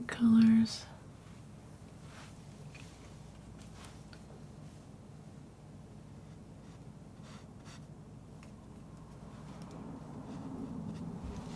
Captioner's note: silence